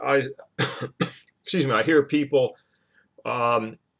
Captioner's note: coughs